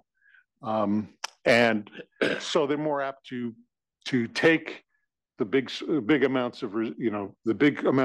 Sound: cough

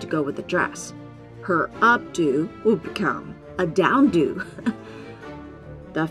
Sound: laugh

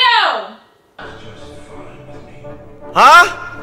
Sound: yelling in the distance

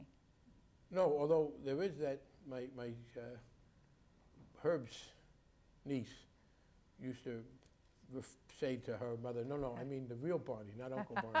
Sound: laughs

